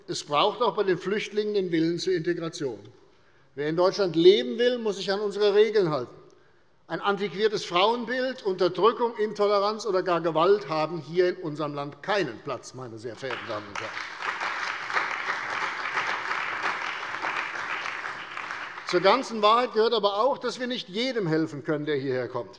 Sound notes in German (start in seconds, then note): 13.2 Beifall bei der CDU und dem BÜNDNIS 90/DIE GRÜNEN